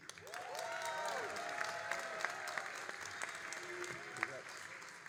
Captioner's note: all applauding and cheering